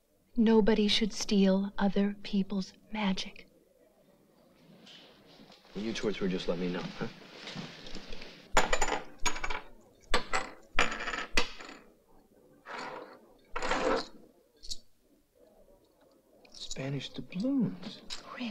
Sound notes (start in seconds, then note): 8.6 coins clanking